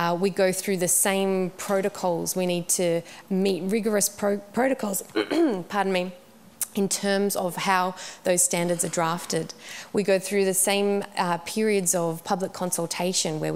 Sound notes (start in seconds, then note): 5.1 coughs